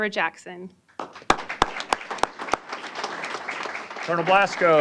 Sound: applause

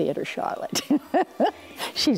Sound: laughing

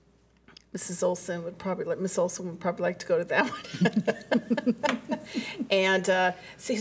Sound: laughs

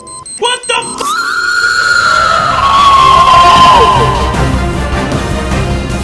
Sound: scream

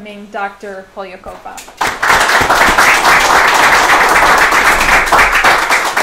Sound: applause

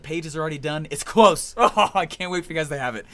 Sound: manically laughs

